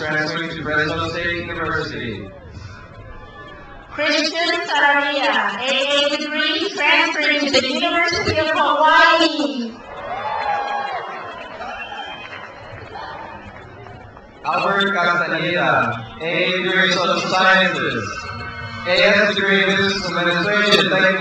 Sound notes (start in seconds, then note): 2.7 crowd cheers; 9.9 crowd cheers